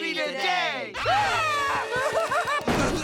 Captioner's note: gasping